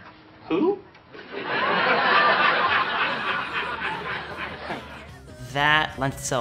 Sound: laughter

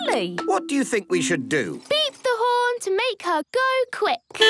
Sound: beeping

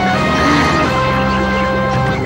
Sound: grunts

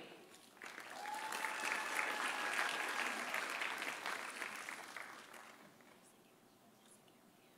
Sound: audience applauding; audience cheering

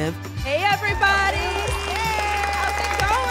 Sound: applause

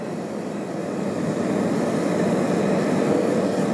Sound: flame hisses

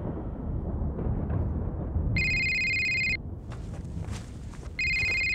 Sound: phone ringing

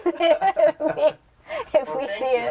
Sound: laughter

